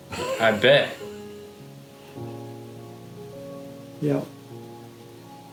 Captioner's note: chuckling